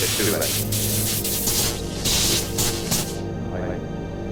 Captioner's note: electricity zapping